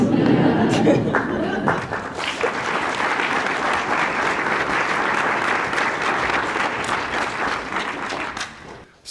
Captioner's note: laughter & applause